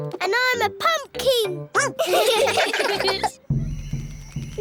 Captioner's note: all giggling; barks